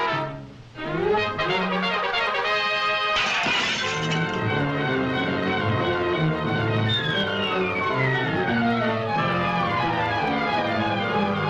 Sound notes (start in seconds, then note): 1.2 triumphant music; 3.1 glass clatters; 4.5 suspenseful music